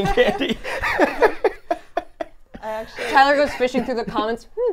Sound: laugh

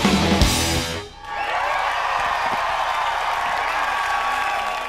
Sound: audience cheering

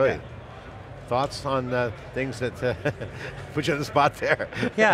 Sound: chuckles

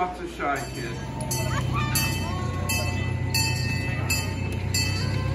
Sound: train bell clanging

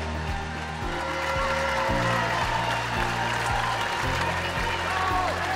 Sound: audience applauding

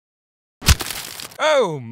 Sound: splat

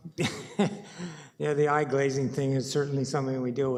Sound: chuckles

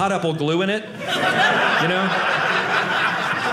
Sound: audience laughing

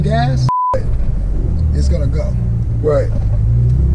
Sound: beeps

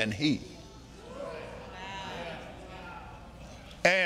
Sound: audience marveling

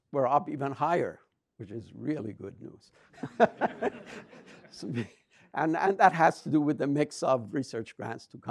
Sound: laughs

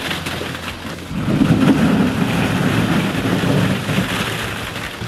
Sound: balls crashing

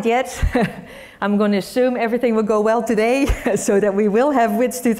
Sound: laugh

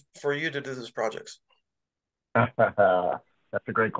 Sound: laughter

